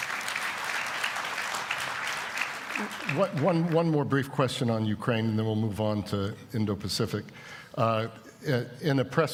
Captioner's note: applause